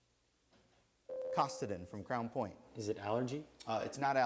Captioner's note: buzzer sounds